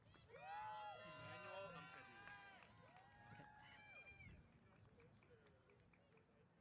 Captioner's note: applause & Cheers